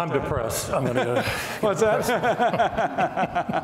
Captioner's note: laughing